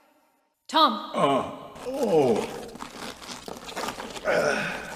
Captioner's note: groans